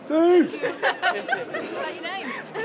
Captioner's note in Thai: แฟนๆ หัวเราะ